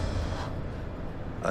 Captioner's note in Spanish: Soplido